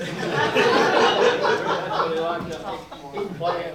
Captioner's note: all laugh